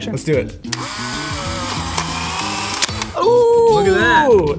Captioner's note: camera whirs